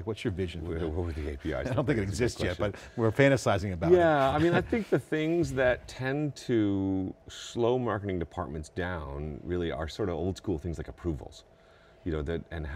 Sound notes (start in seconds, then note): 3.9 laughing